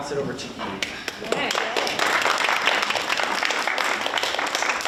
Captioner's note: audience applauds